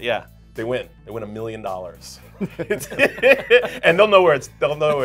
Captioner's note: all laughing